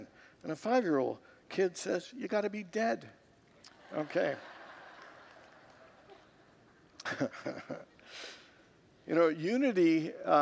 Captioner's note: congregants laugh